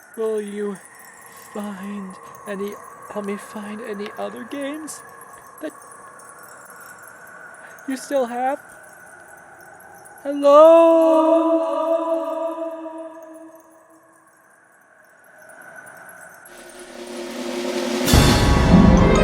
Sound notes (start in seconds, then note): 12.3 echo